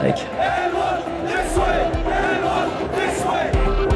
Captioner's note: crowd chanting